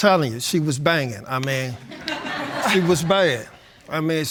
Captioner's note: laughter